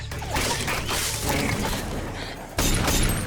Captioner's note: gunfire